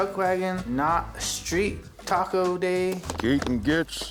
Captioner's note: none